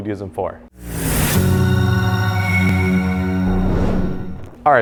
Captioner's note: logo whooshing